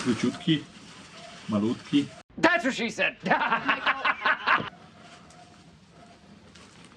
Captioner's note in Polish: śmiech